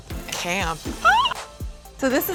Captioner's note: gasping